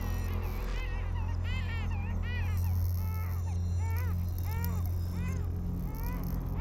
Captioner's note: baby crying; ominous music; baby's crying intensifies